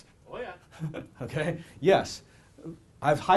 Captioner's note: laughs